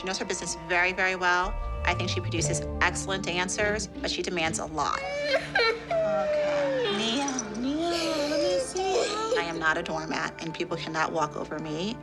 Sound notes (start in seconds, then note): 4.9 crying